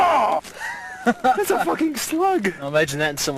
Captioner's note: laughter